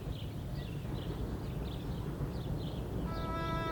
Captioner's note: bird chirp